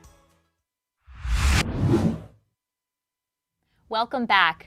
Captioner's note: computer digital swoosh